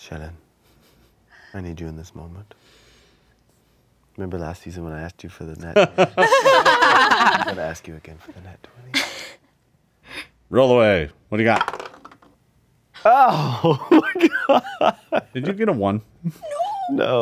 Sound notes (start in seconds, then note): 5.8 everyone laughs; 7.9 murmurs; 11.5 dice clatter; 13.1 laughs